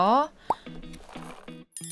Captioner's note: sips